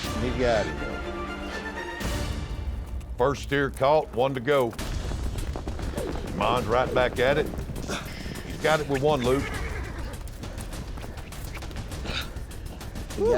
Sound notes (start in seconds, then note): 5.6 rope swirling